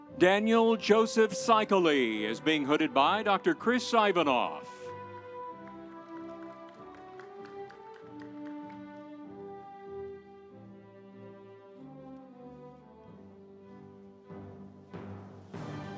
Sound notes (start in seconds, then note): 4.8 audience applauding; 6.1 instrumental music